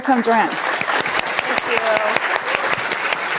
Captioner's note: applause